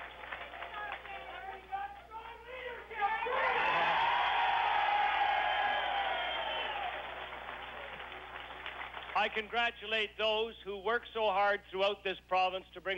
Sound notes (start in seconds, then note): 2.5 cheers